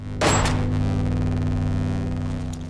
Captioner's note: loud gunshot